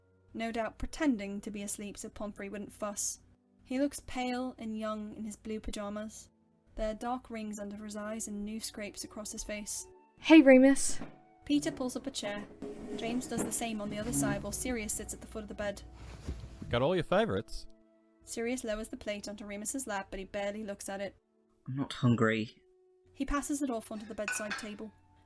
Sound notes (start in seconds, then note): 12.3 chair scrapes